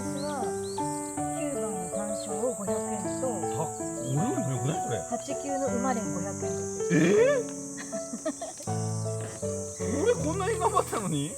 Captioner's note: haha